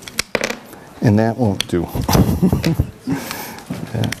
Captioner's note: laughs